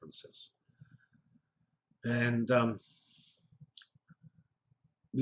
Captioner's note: pause